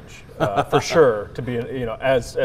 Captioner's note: laughs